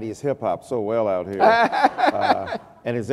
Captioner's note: laughter